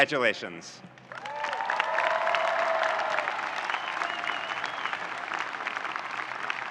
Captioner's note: audience cheering and applauding